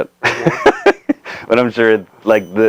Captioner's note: laughing